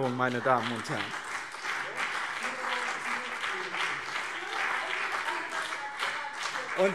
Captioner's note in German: Beifall BÜNDNIS 90/DIE GRÜNEN und CDU